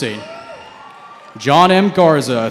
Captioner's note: cheering